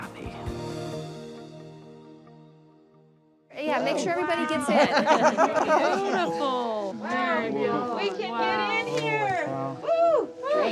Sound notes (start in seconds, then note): 4.5 laughter